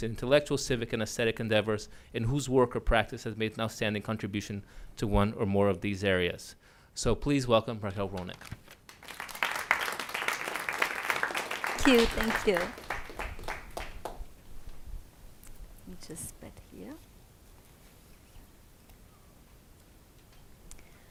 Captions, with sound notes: and intellectual, civic and ascetic endeavors, in whose work or practice has made an outstanding contribution to one or more of these areas. So please welcome Raquel Rolnik. (Audience claps) - Thank you, thank you. We just met here.